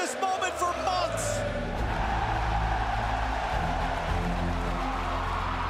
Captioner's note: cheers and applause